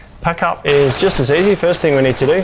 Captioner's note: canvas rustling